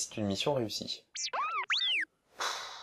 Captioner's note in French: R2 bipe